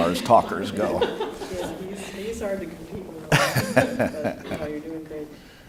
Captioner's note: laughter